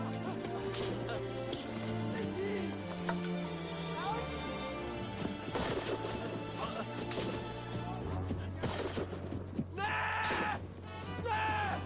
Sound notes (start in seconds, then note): 4.1 panting and grunting